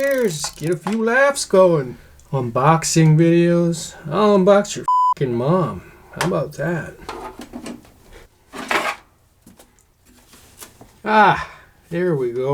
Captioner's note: beeping; beeping